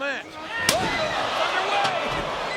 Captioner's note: fans exclaiming; trash can thwacking